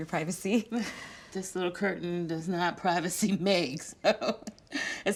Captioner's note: laughs